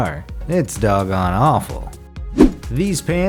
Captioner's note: air whooshes